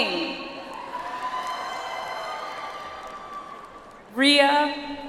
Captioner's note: audience applauds